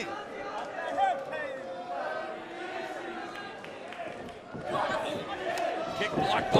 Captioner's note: crowd chatter